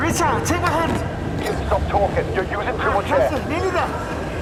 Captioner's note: Tim over radio